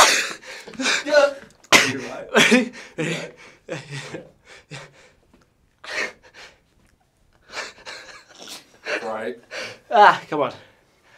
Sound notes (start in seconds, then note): 0.0 fits of laughter; 7.5 more laughter